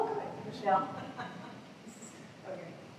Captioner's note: laughter